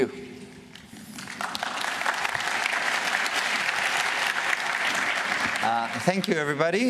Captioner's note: applause